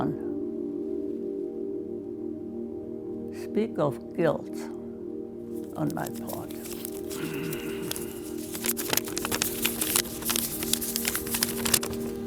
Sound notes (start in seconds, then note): 8.6 paper rustling